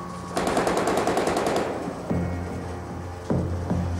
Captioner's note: gun firing